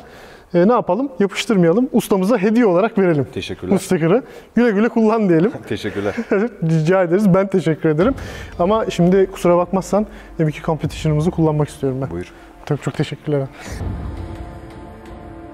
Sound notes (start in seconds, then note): 8.4 laughs